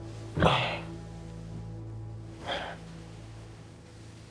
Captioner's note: Tommy sighing